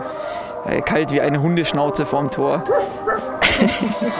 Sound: Müller barks

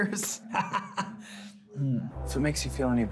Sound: Dan laughs

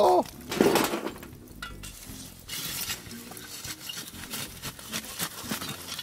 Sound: shovel crunches coals; coals thump on metal

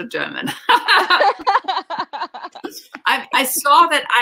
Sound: laughing

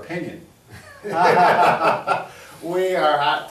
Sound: both laughing

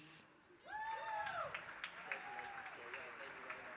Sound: applause

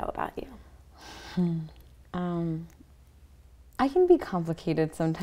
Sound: soft laugh

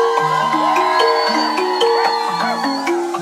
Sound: chime music; crowd cheers; chime music continues

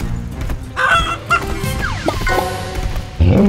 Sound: clucking; grunting

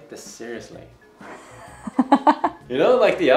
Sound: laughing

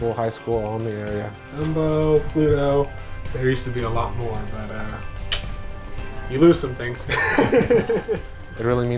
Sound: laughs

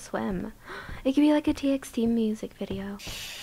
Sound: gasp; breathes in with anguish

